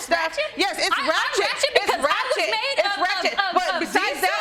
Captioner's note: stutters